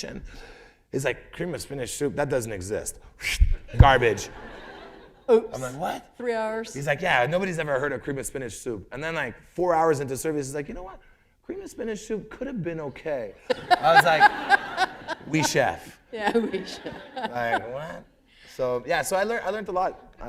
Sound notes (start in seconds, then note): 13.4 laughter